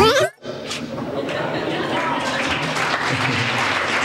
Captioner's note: laughter; applause